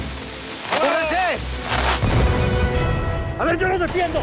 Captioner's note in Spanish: Explosión